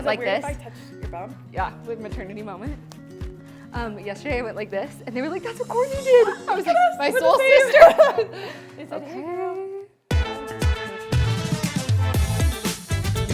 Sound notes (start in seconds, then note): 7.1 laughing